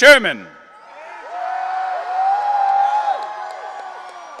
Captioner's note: audience cheering